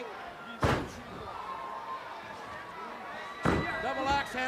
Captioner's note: hands thudding